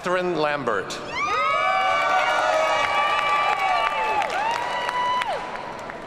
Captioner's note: audience cheers and applauds